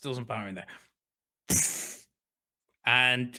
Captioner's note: blows raspberry